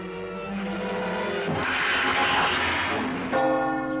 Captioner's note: vampire snarls; bell-like toll